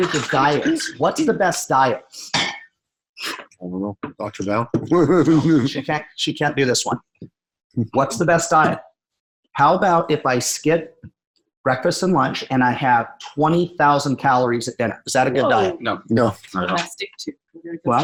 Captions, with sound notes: of dials? What's the best dial? - I don't know, Dr. Dow. (laughing) - She can't do this one. What's the best diet? How about if I skip breakfast and lunch and I have 20,000 calories at dinner? Is that a good diet? - No, no. - Well,